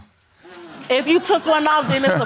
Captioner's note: audience laughing